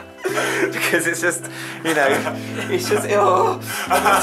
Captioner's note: they laugh; groans